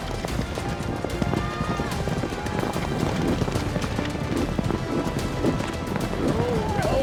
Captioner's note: galloping horses